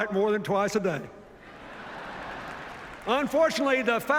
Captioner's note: laughter